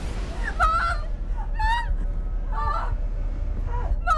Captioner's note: Sue groans